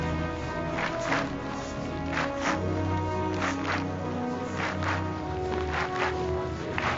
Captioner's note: rhythmic clapping